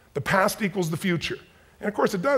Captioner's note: none